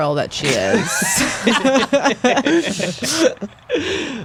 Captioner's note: laughing